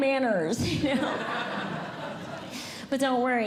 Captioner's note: audience Laughing